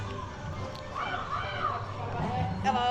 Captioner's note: crow caws